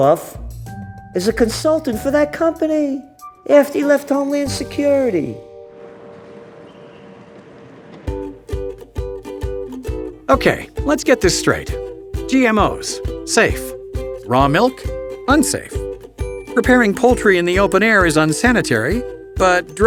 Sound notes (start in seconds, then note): 8.3 playful music; 10.6 voiceover